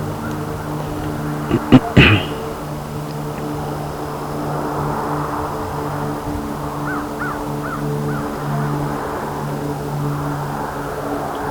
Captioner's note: wind/road noises